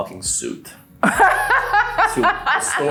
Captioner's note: laughs